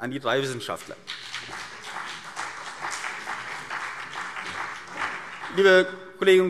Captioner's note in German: Beifall CDU und BÜNDNIS 90/DIE GRÜNEN